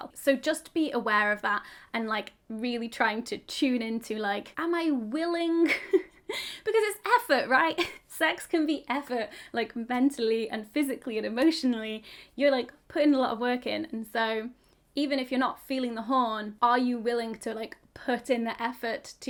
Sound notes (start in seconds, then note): 5.7 chuckles